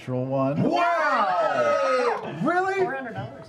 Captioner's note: cheering